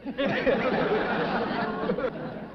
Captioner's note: chuckling